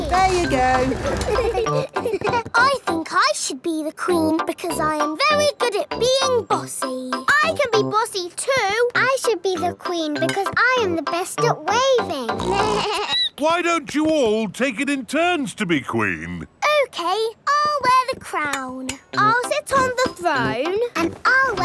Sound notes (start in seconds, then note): 12.3 snorts; 12.4 bleats